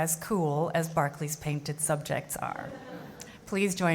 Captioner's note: audience laughs